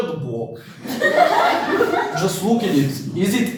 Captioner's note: laughing